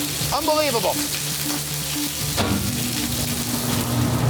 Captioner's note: food sizzling; hood whooshing